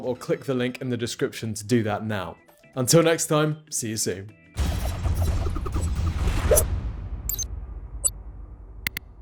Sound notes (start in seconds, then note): 4.8 swoosh; 4.8 upbeat ambient music